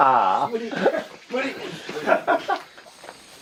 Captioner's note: laughs